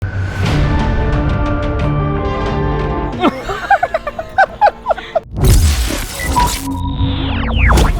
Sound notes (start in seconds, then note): 0.5 upbeat music; 3.1 group laughing